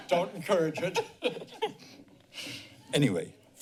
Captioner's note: laughter